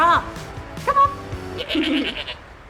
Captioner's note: goat bleats